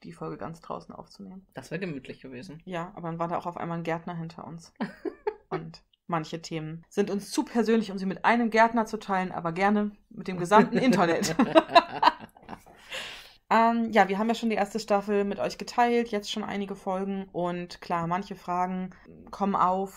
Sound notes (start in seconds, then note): 4.8 laughs; 10.4 both laugh